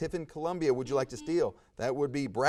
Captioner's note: buzzer buzzes